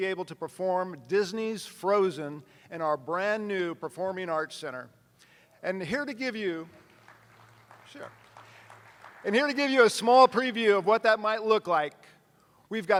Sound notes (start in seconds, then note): 6.8 attendees applauding